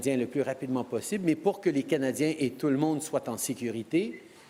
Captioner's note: speaking french